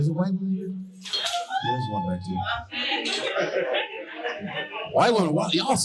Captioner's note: woman cheers